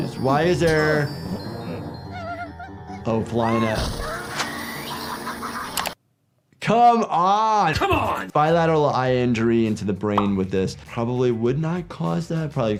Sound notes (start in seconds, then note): 4.0 Gliggles screams; 5.7 click